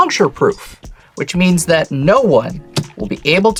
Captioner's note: thumps card